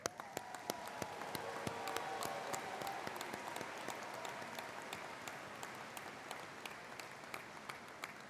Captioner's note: applause